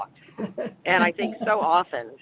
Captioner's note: laughs